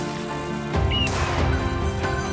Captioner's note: bells clinking; bird chirping; gun firing